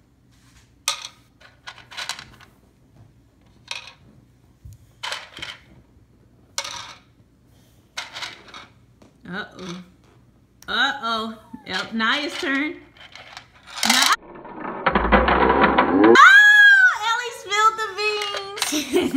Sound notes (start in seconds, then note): 9.5 voiceover